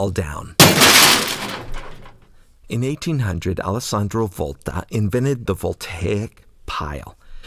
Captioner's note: crashing sound